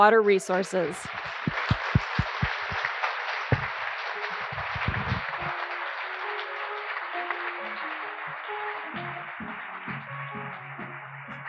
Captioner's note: applause